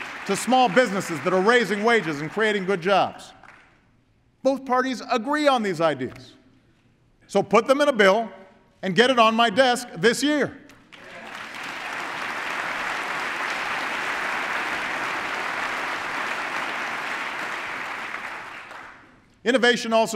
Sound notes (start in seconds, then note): 0.0 applause; 14.2 applause